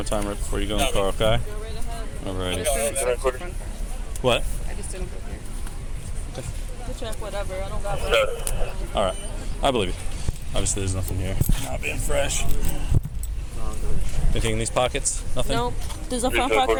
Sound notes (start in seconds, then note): 2.5 radio chatter; 7.7 radio chatter